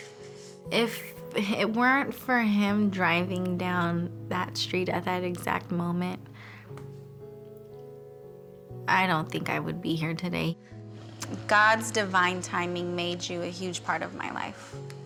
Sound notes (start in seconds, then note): none